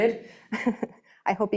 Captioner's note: chuckling